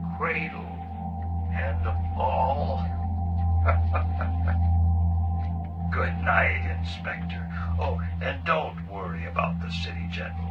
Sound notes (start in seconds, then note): 3.6 Mabuse laughs